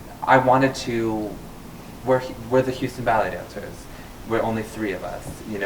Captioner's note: none